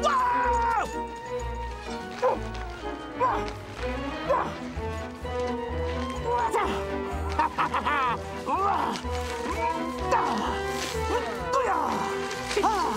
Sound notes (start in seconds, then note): 3.4 barking; 6.6 Wishbone Laughing